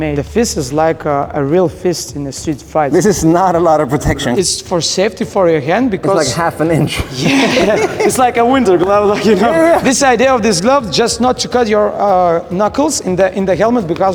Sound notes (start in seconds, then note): 6.0 laughing